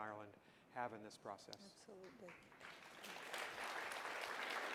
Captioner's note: applause